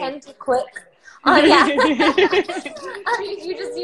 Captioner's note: both laughing